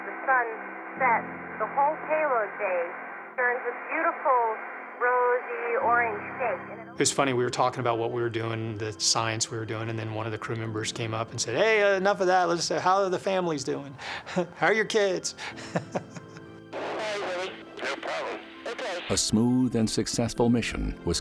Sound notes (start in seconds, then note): 15.5 laughs